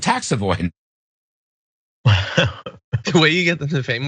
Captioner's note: laugh